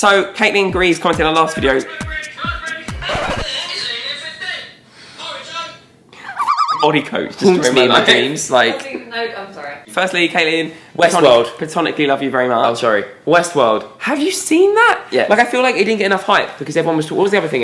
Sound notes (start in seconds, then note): 1.2 wacky radio sounds; 3.1 record scratch